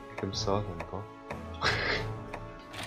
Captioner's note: giggle